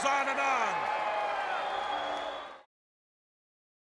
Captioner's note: crowd cheering